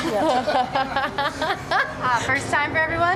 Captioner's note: laughs